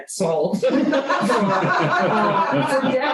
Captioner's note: laughter